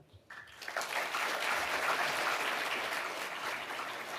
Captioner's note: audience applauding